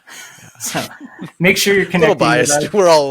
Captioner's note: all laughing